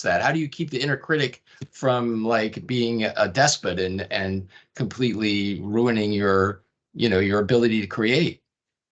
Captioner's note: none